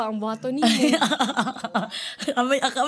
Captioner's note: chuckles